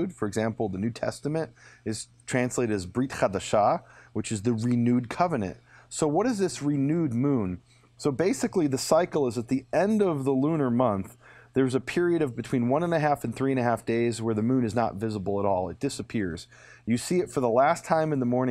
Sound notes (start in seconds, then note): 2.6 speaking in foreign language